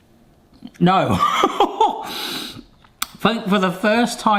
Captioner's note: laughing